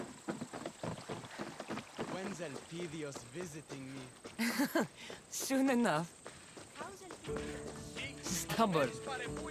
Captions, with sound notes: When’s Elpidios visiting me? (laughs) Soon enough! How’s Elpidios? Stubborn.